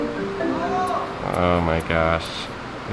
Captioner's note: yells